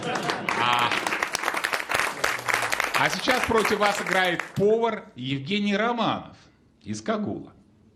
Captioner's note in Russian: аплодисменты